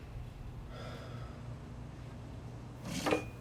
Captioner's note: James sighs